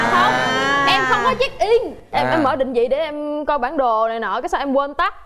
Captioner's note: laughing